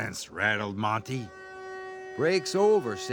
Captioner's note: horn blaring